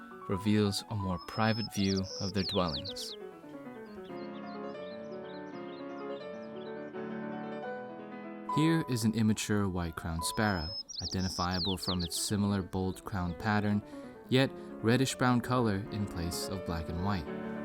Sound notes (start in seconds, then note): 4.3 birds chirping; 4.3 jovial music